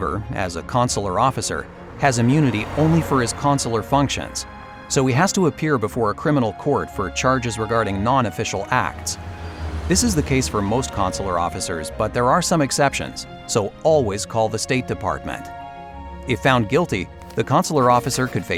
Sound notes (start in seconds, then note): 4.0 passing car engine; 8.9 passing truck engine